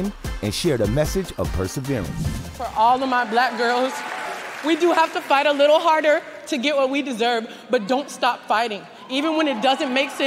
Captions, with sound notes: and shared a message of perseverance. [cheers, applause] - For all of my Black girls, we do have to fight a little harder to get what we deserve. But don't stop fighting even when it doesn't make sense